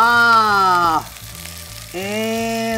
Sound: food sizzles

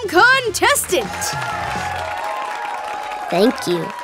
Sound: cheering

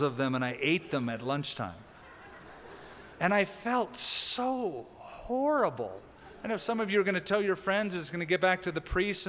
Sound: laughter

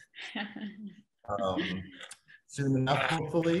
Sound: laughs

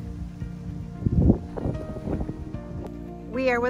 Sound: wind blowing

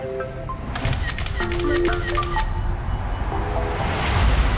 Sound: camera clicks

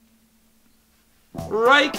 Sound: dead silence

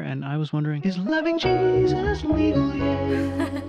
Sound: giggling

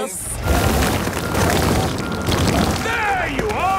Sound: rock crumbling

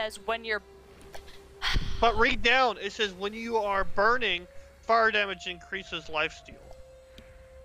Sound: exasperated sigh, can't even with this

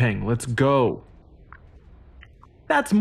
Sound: droid protests

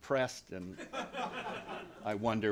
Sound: laughter

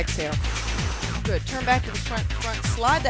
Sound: exhales

